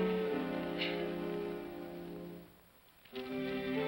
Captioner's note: ominous music; woman sobs; ominous melancholy music